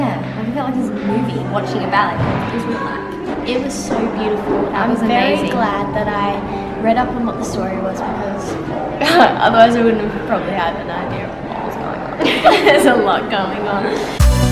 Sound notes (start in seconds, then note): 12.1 laughing